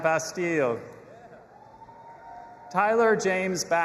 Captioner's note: audience applauding and cheering